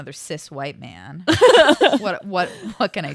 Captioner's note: laughs